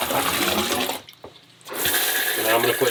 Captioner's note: toilet flushing